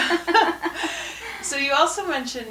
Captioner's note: laughter